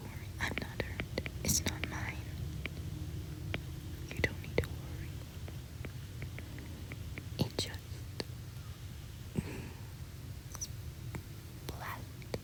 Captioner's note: tapping